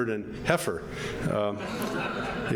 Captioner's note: audience laughing